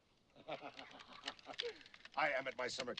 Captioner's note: laughs